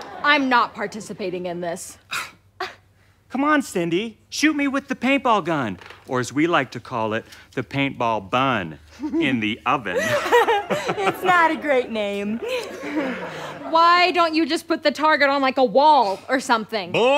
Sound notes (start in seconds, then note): 0.0 audience laughter; 2.0 scoffs; 9.9 laughs; 12.4 audience laughter